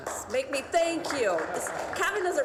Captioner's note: applause